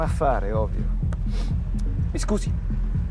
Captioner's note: taps